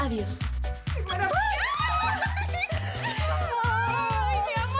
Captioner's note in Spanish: Gritos y exclamaciones